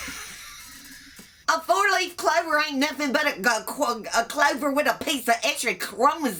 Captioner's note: laughs